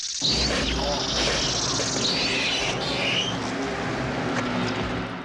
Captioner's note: hissing; soldier groans